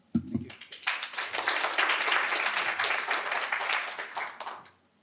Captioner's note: applause